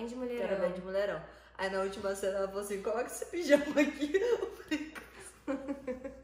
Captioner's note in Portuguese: risos